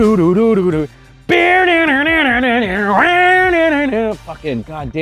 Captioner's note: imitates electric guitar